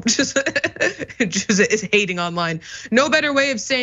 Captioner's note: laugh